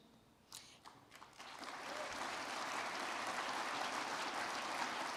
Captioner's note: crowd clapping